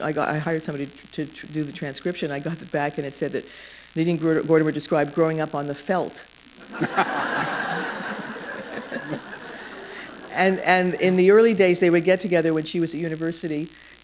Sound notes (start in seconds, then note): 6.6 laughter